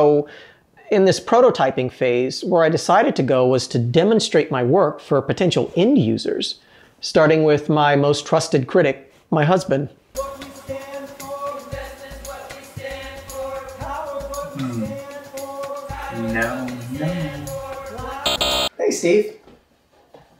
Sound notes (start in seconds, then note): 18.2 buzzer